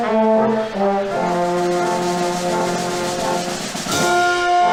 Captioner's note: none